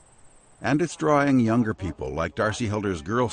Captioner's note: voiceover